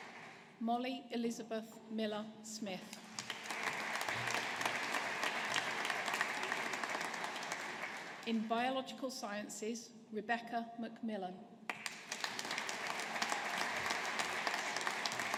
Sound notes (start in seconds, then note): 3.0 audience applauding; 11.7 audience applauding